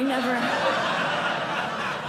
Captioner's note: laughter